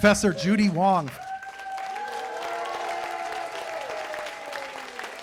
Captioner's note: cheers and applause